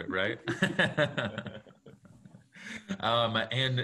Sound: laughing

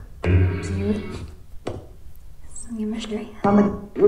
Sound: spirit voices

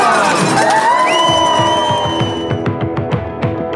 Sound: crowd cheering

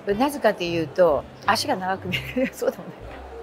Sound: laugh

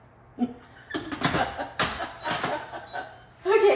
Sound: mom laughing; pot beeping

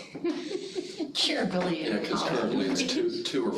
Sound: laughing

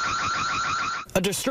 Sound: nats: stealing from car/alarm

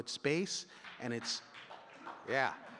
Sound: audience clapping

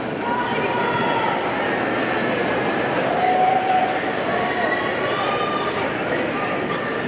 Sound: audience chattering and murmuring

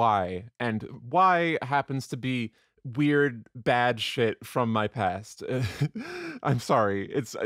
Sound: chuckles

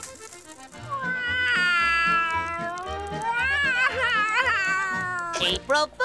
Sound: crying

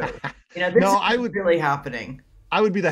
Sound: laughs

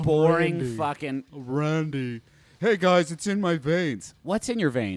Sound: low voice

